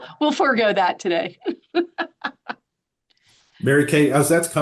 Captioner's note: laughing